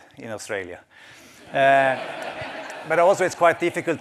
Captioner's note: laughter